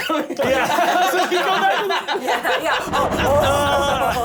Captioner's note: laughter